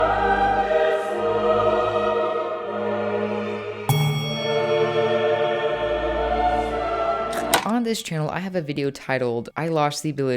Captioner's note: dramatic music; click